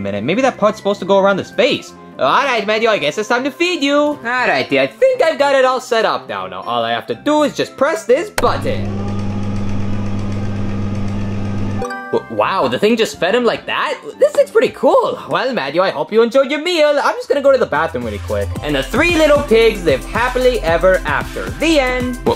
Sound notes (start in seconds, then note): 8.4 machine whirring; 11.8 machine chiming